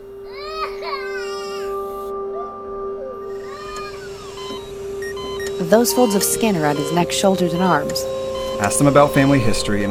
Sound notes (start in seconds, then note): 0.2 baby crying; 4.5 machines beeping